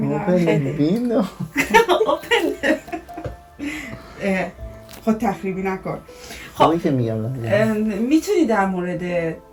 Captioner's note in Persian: خنده